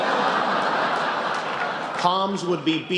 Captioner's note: laughter